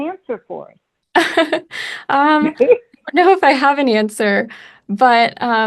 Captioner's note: laughs